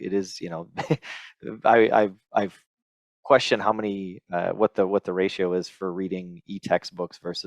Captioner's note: laughs